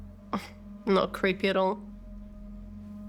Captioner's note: scoffs